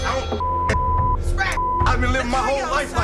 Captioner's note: beeping